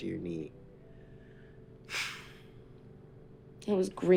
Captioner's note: sigh